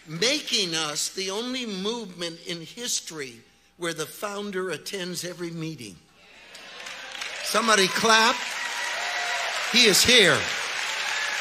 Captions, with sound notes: Making us the only movement in history where the founder attends every meeting. (audience agrees) (audience applauds) Somebody clap. He is here.